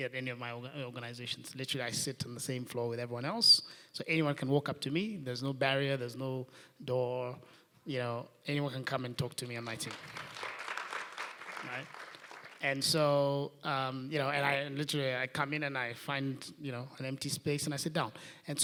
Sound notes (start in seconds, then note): 9.5 applause